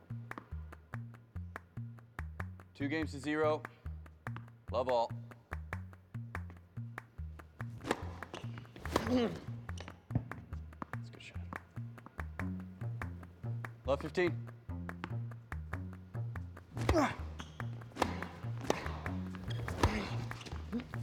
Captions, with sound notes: (ball bouncing) - Two games to zero. Love, all (racket smacking) (racket smacking) (Phillip grunting) - That's a good shot. (energetic music continues) Love, 15. (ball bouncing) (racket smacking) (Marshall grunting) (rackets smacking)